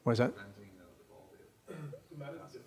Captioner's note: voiceover